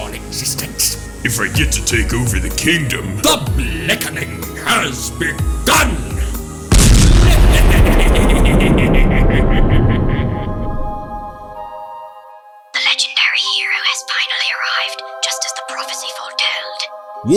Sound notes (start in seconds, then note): 6.7 explosion; 7.0 count bleck laughing